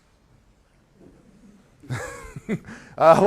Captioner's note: laughter